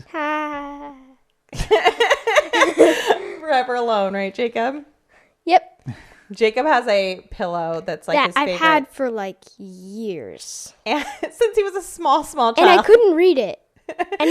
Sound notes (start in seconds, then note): 1.6 laughs awkwardly; 1.6 laughs